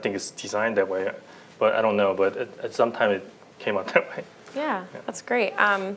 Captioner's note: laughter